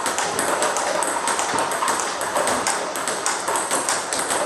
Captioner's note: ball ping pong hitting continues